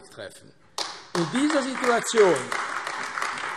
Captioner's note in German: Beifall AfD